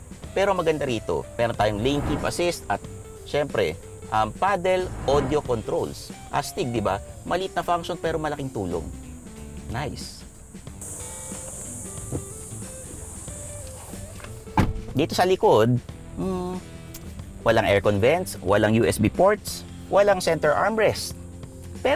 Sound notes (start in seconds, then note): 14.4 door thuds